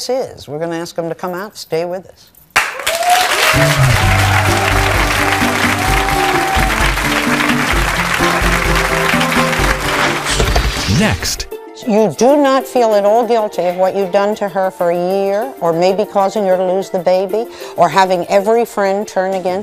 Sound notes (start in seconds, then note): 2.6 audience applauding; 2.9 bright music